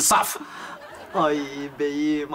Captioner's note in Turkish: Gülme efekti